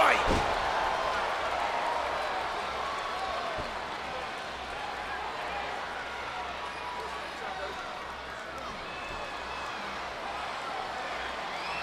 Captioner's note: crowd cheering